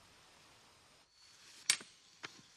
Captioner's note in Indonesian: clap